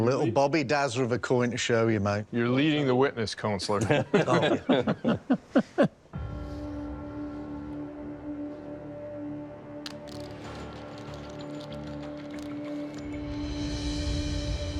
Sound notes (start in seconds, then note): 3.8 chuckling; 7.8 suspenseful music playing